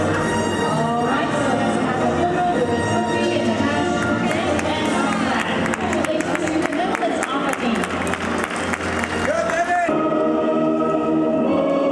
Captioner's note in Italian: Applauso